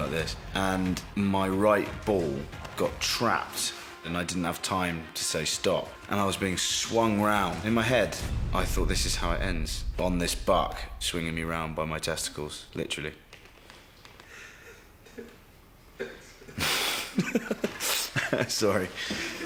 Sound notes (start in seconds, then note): 14.0 contained laughter off-screen; 17.1 chuckles